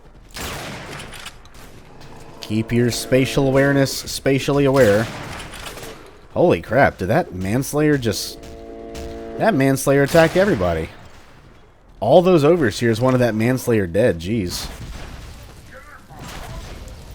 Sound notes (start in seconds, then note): 5.6 bam; 10.0 bam